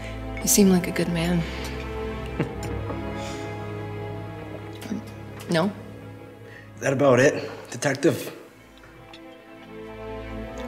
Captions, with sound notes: You seem like a good man. [laughs] No? - That about it, detective?